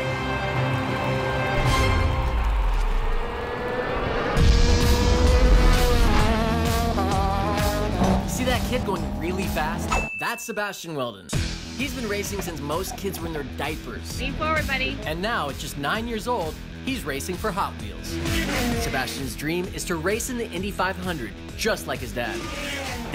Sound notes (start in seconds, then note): 0.0 triumphant music; 3.7 loud racing car engines